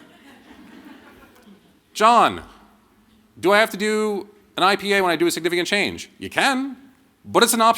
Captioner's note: laughter